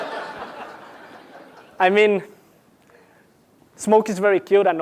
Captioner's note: laugh